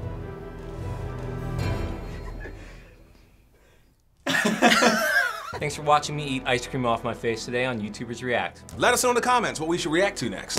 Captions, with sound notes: (chuckles) (everyone cracks up) - Thanks for watching me eat ice cream off my face today on YouTubers React. - Let us know in the comments what we should react to next.